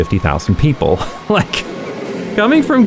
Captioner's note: laughing